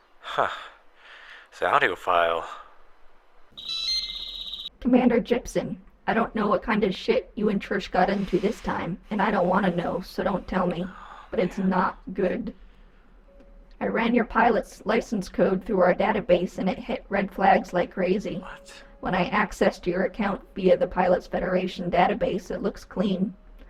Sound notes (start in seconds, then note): 3.5 computer Voice